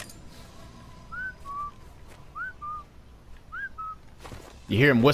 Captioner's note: whistle